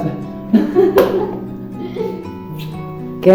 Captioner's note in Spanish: Risas